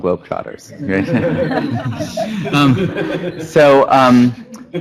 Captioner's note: laughter